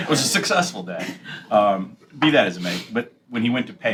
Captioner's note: laughter